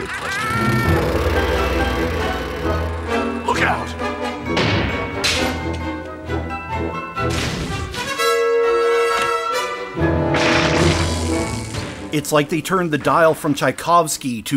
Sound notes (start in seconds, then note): 0.0 Joker laugh; 4.5 crash!; 10.2 crash!; 10.8 electric fizz